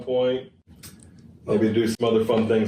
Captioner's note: clicks his tongue